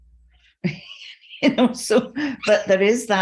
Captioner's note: laughs